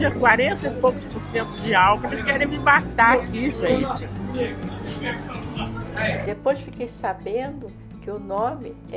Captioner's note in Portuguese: risos